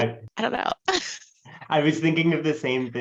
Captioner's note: laughs